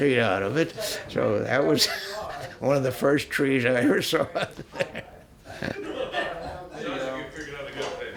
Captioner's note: laughs